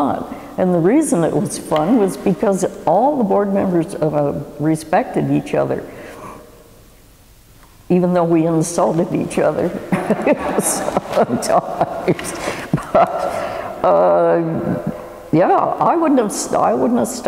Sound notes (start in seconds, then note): 9.7 laugh